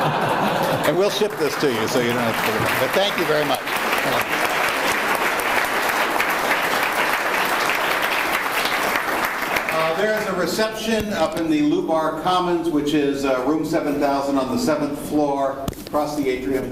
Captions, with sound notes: - And we'll ship this to you, so you don't have to take it. (audience applauds) But thank you very much. - Thanks. - There is a reception up in the Lubar Commons, which is room 7000 on the 7th floor across the atrium.